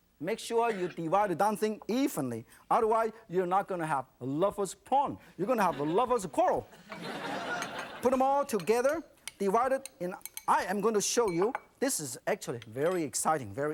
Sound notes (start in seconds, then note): 6.8 audience laughs